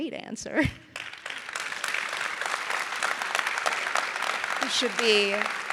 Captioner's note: audience applauding